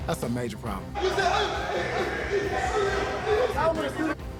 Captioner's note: yelling